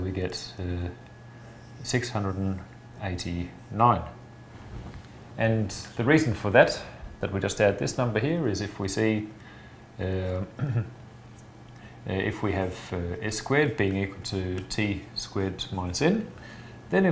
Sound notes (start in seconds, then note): 10.5 clears throat